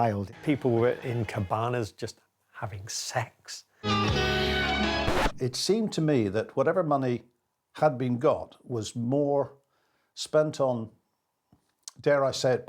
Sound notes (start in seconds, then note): 3.8 sultry music; 4.9 record scratch